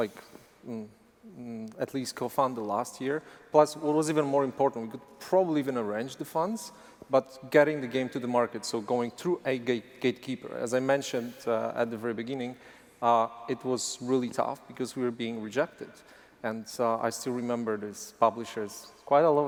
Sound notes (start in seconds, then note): none